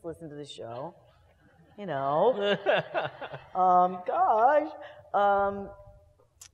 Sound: laugh

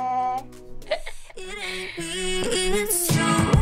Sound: laughing

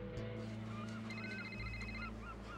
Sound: phone rings

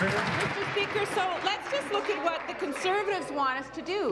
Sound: applause

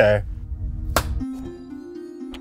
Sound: smack

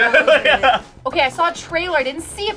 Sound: laughing

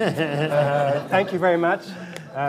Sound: laughter

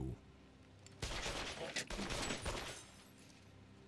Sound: gun firing

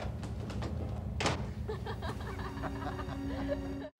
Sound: laughter

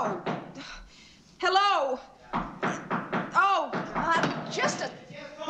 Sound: knocking Continues

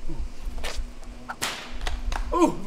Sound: whip cracks

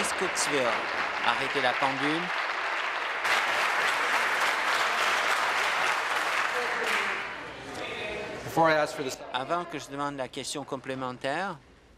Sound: applause

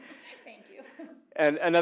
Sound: laugh

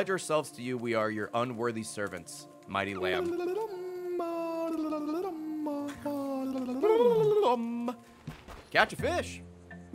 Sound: laughs

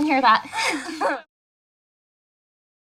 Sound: chuckling

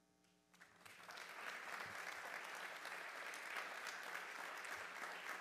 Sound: audience applauding

